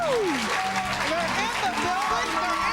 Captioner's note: audience applause